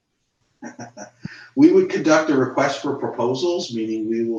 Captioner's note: laughs